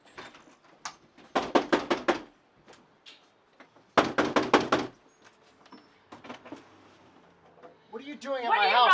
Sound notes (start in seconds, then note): 1.6 knocks thud